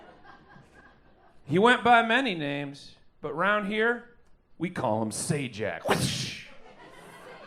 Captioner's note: whip sound